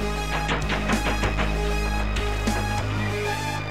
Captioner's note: knocking